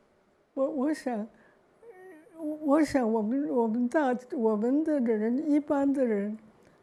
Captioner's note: Mandarin